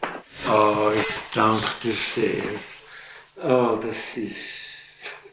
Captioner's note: speaking Swiss German